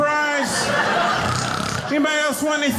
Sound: mimicking snoring

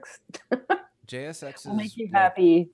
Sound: laughs

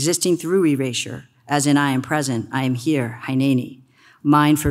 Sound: speaks foreign language

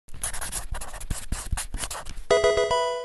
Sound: marker scratching; electronic video game chime

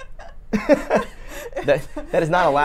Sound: laughs

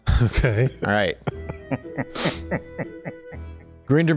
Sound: laughs

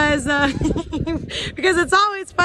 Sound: laughing

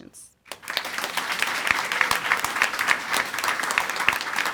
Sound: audience applauding

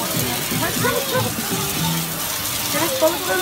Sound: water sound

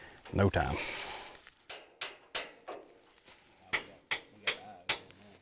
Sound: metal clattering

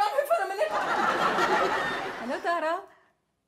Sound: audience laughs

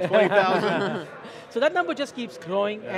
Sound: laughing

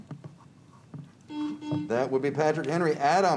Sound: buzzer beeps

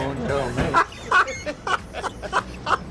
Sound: laughs

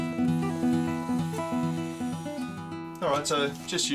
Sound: machine whirring

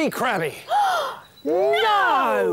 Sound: gasp!

